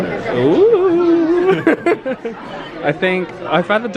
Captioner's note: laughs